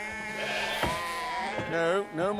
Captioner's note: sheep bleating